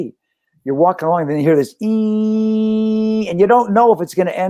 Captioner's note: buzzing